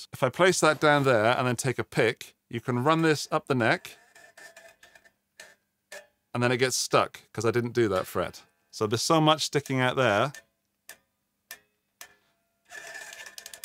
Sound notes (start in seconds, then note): 3.8 rattling; 9.3 clock ticking